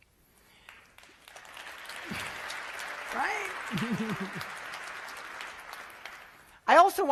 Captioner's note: applause